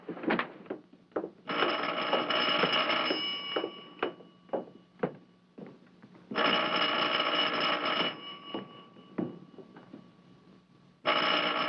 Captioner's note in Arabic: رنين الهاتف